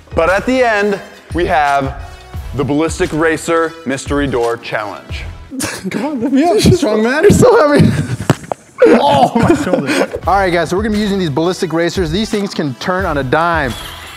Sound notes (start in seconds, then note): 5.5 laughter; 8.7 more laughter